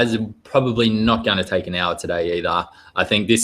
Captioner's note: none